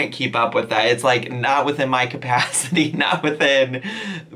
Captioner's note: chuckles